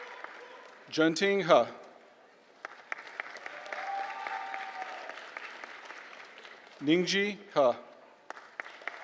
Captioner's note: applause; applause